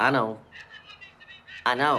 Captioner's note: shouting